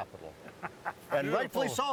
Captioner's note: laughing